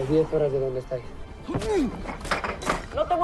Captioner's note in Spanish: Quejido